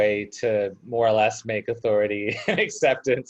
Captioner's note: laughs